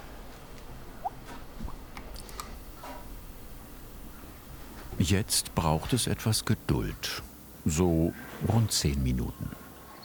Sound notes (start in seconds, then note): 0.7 soft popping and clacking